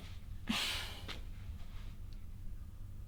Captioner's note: sighs